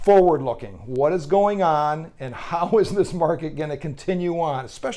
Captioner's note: laughs